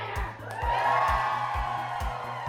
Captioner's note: crowd cheers